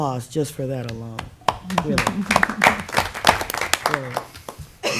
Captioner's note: applause